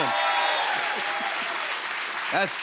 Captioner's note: cheers and applause